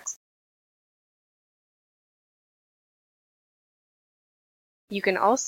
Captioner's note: silence